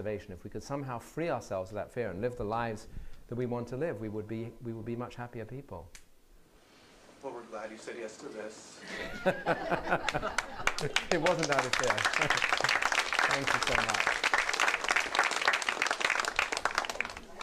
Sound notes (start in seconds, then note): 8.8 laughter; 10.1 applause; 14.4 applause